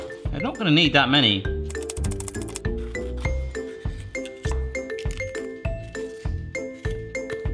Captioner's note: playful music; knife thudding